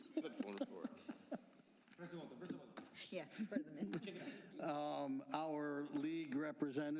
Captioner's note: laughter